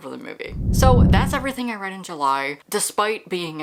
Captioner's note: whoosh